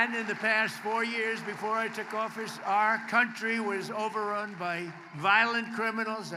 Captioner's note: applause